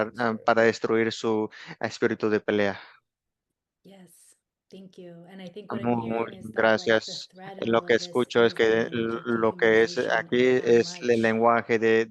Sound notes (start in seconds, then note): 5.0 hablando inglés